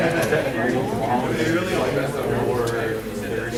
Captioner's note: laughing